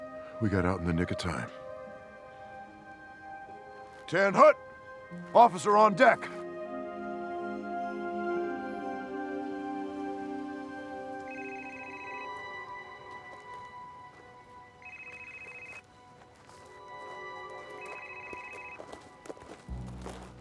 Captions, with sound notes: We got out in the nick of time. 10-hut. Officer on deck. (gentle music continues) (phone ringing) (suspenseful music)